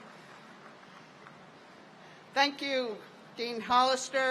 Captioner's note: applause